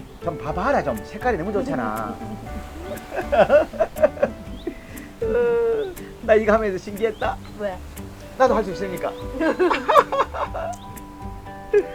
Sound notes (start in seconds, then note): 9.2 both laughing